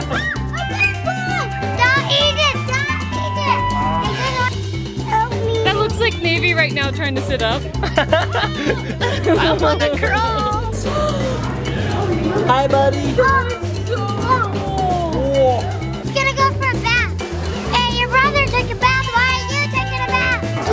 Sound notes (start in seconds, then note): 0.0 chuckles; 3.6 relaxing music; 7.9 laughs; 10.8 mom gasps